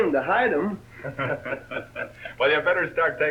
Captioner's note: Crash and Alibi laugh